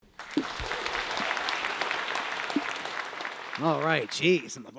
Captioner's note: applause